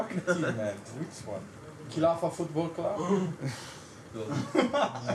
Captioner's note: laughs